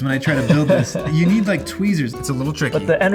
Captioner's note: laughing